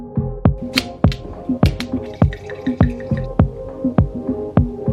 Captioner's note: wine bottle opening